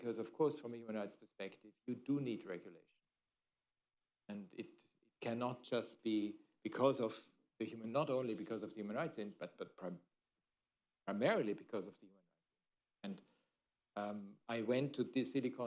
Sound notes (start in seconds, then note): 12.5 off mic